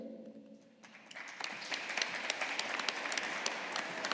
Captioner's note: audience applauding